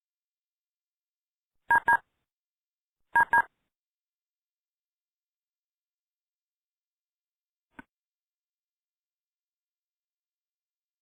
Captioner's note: beeps